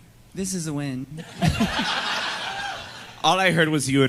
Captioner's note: audience laughs